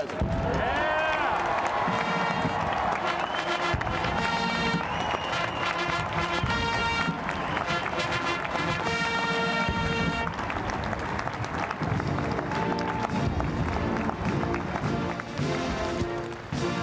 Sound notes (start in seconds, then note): 4.7 cheering; 14.6 band playing